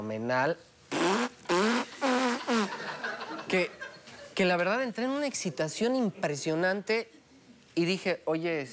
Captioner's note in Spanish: Hace un sonido oclusivo